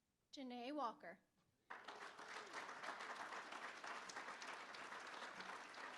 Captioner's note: applause